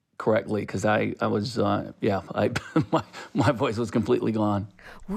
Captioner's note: laughter